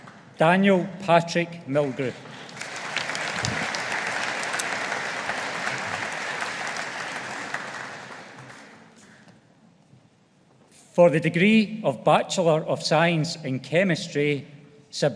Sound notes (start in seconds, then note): 2.3 audience applauding